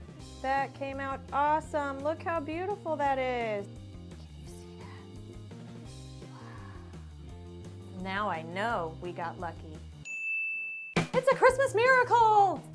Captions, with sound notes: That came out awesome! Look how beautiful that is! (Whispers) Can you see that? Wow! Now I know we got Lucky! (Ding) It's a Christmas miracle!